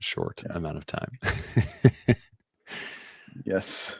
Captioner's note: laughs